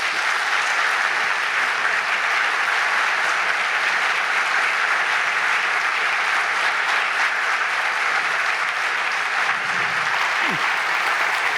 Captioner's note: clapping